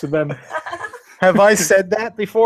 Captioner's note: laughs